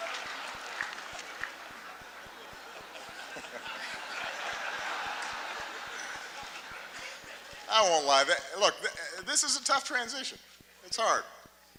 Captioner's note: laughter, applause